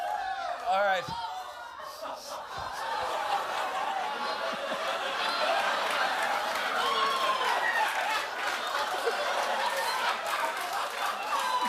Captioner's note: laughter